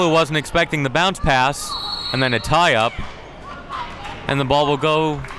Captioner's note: whistle blows